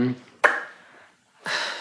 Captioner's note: lip smack